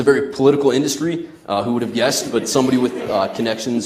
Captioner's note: audience laughs